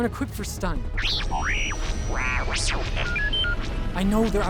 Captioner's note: R7 arguing